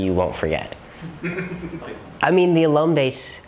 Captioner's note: laughter